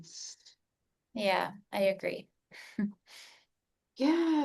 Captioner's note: giggles